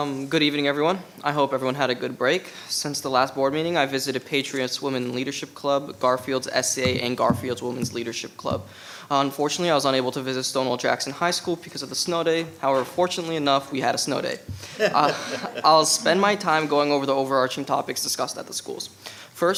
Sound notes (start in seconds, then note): 14.6 laughing